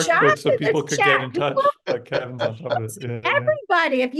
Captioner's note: speaking faintly